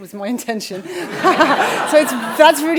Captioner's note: crowd laughing